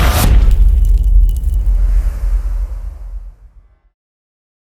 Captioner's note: impact